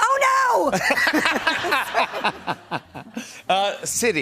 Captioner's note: laughter